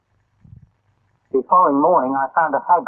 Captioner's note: silence; wind